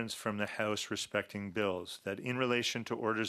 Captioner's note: speaking French